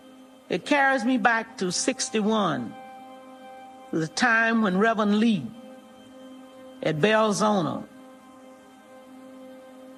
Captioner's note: none